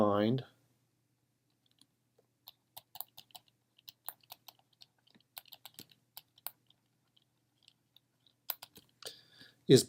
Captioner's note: typing